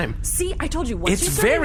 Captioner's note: excited